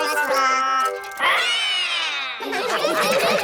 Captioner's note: all roar; all laughing